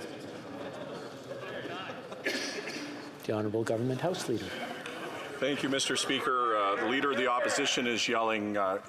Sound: chatter

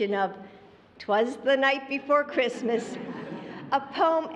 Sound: laughter

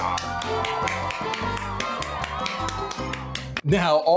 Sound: cheering

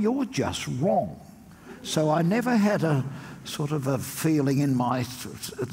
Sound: audience laughs

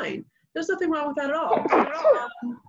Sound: sneezes

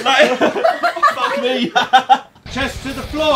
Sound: group laughing; Josh laughing

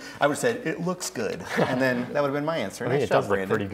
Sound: contestants laugh

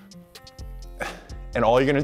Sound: grunting

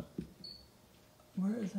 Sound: wheel squeaks

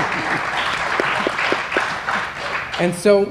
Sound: laughter; applause

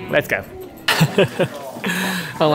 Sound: chuckles

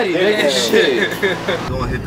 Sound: laughing

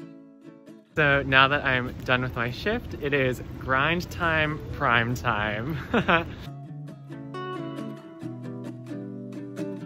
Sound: laughs

